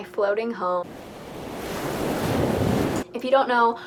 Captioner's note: ocean waves